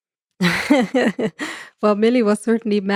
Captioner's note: laughs